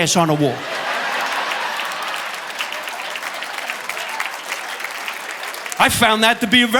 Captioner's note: audience laughing; audience applauding